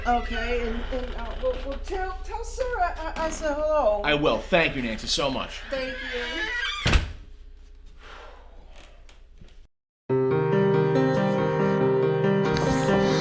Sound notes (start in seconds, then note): 8.2 sighs; 10.3 dramatic music